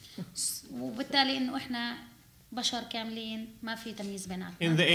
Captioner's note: speaking arabic